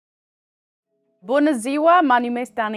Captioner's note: in Romanian